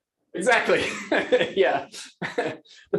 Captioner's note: laughter